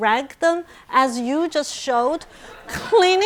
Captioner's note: audience laughing